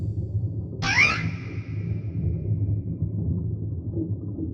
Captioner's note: startled scream